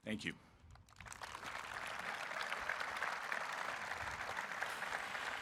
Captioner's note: audience applauding